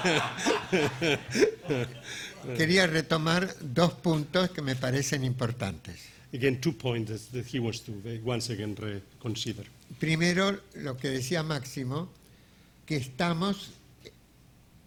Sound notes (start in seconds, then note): 0.0 audience laughing; 3.2 speaking in a foreign language; 10.5 speaking in a foreign language